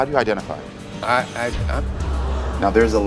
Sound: audience gasps

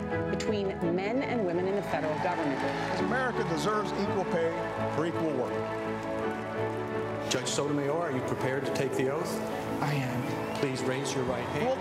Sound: cheers & applause

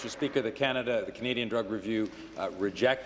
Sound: applause

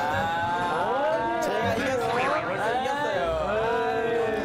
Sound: criticism and jeering

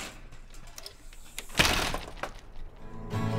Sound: door slams

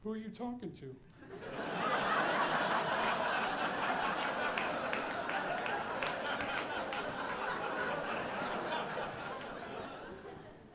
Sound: audience laughing

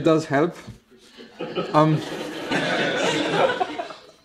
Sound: more laughter

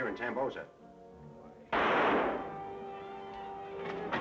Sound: gun firing

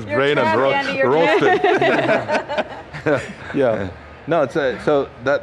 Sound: panel laughs

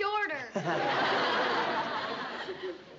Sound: laughter

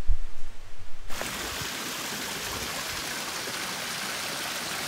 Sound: water burbling

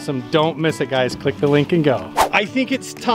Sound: swooshing

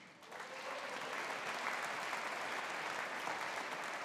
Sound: audience applauding

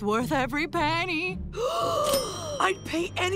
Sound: gasping

